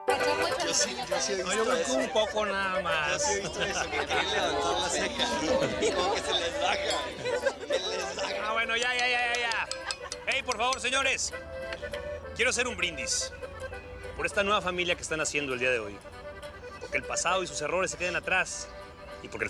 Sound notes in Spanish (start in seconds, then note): 0.0 Comentarios y risas; 9.4 Sonido al golpear la copa